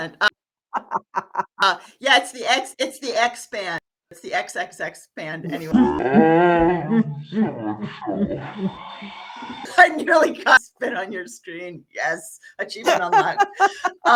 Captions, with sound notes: (laughing) Yeah, it's the X-band, it's the X-X-X-band anyway. (growling) I nearly got spit on your screen, yes, achievement unlocked.